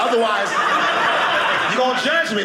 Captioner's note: audience laughing